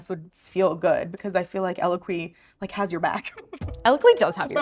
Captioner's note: laughs